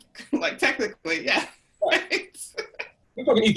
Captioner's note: laughs